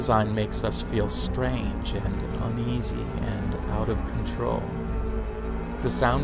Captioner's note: pitchless rattling pauses, then rattles quickly, unpredictably